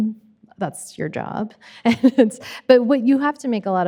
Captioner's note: chuckling